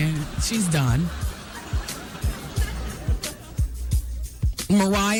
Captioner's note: laughter